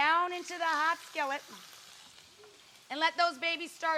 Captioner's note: sizzling